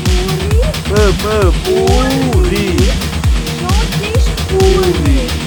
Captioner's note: speaking Georgian